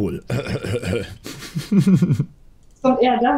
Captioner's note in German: Lachen